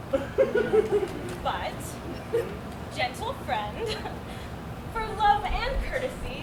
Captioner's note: laughs